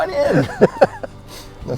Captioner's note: laughs